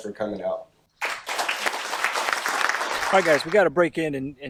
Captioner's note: audience claps